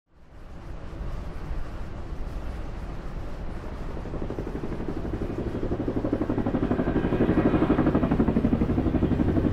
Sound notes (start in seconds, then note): 3.5 helicopter whirring